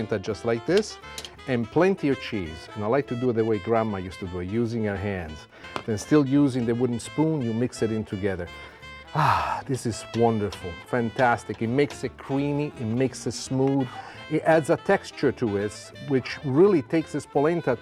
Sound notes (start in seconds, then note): 8.6 sighs